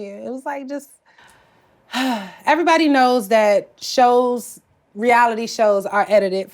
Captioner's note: sighs